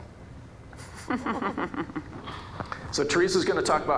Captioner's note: audience chuckling